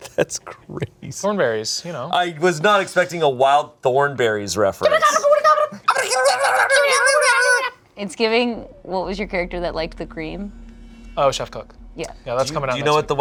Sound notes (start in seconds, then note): 5.8 babbling